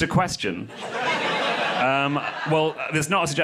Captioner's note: crowd laughs